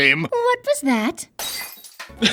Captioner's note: glass shatters